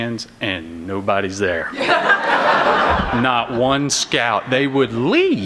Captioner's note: laughter